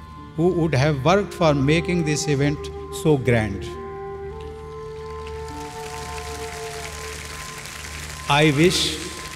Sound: applause

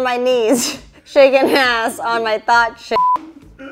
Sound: beep

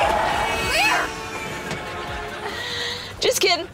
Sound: horns honking

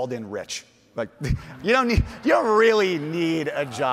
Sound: audience laughing; chuckles

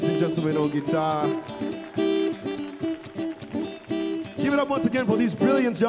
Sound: crowd applauds

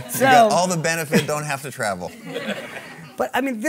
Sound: audience laughing

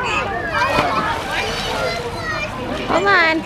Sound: splash

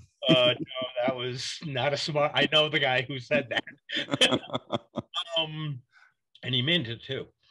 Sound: both laughs

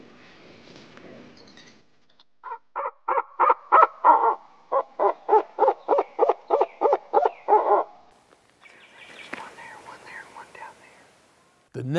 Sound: whispering

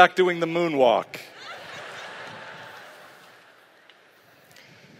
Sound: laughter

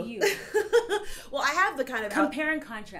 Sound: laughs

